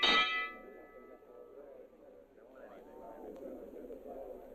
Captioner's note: bell clanging; indistinct chattering